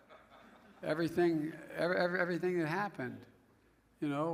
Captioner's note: laughter